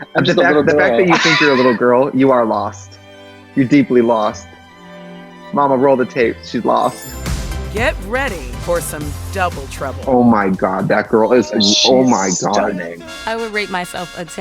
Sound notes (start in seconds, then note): 0.3 laughs; 3.6 dramatic classical music; 6.1 upbeat music; 6.7 chimes